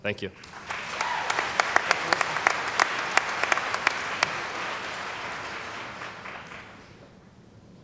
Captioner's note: cheering & Applause